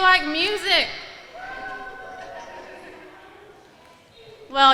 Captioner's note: pupils clamoring